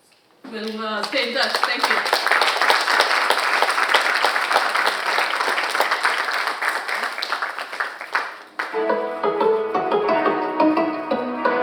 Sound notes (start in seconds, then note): 1.0 audience applauding; 8.6 cheerful music